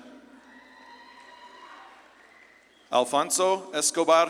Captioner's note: audience claps and cheers